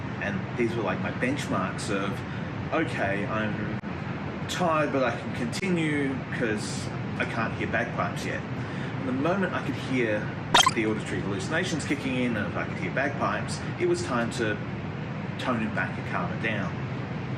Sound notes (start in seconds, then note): 10.5 beep